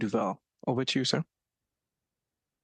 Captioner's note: speaking French